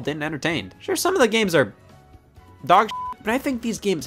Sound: beep

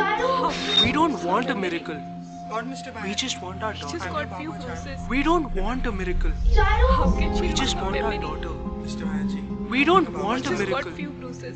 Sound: all voices together

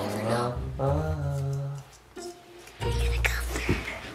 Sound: humming

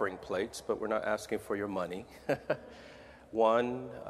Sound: laughing

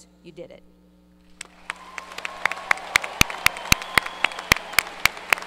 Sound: audience cheers and applause

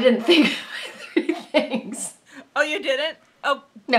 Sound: laughing

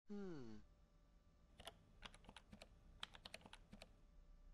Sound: typing

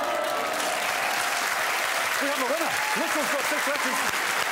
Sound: audience cheers

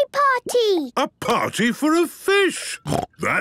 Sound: snorting

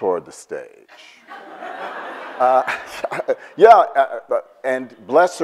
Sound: audience laughs

